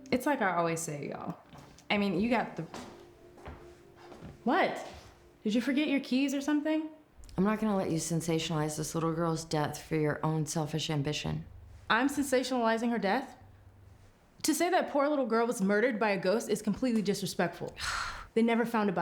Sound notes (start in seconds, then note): 3.2 footsteps tapping; 18.0 Claire scoffs